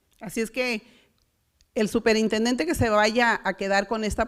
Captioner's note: foreign language